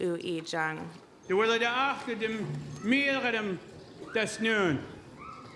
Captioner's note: speaking in Sm'algyax